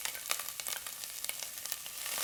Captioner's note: sizzle